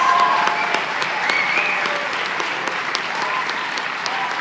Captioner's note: applause